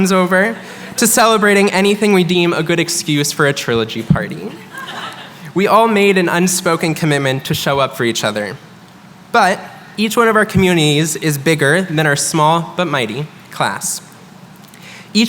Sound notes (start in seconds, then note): 4.4 chuckling